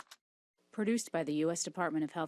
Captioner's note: applause